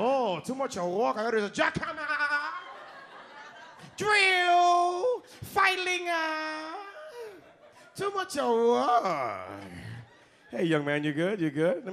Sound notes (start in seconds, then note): 1.8 audience laughs